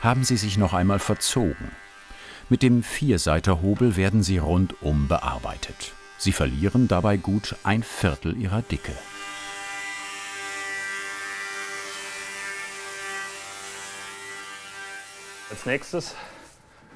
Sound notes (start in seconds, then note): 9.7 sound of sawing